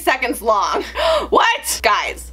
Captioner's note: gasps